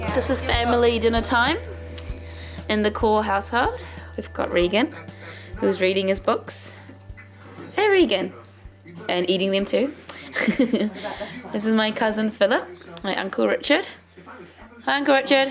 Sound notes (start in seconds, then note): 10.2 laughs